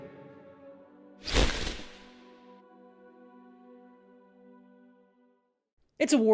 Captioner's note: whoosh